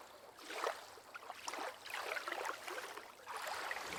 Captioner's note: water splashing